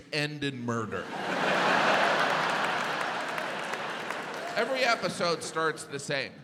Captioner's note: audience laughs